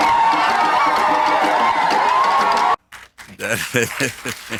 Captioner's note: crowd cheering; audience applauds; laughs